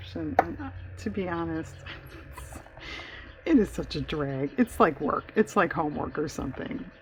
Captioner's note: laughs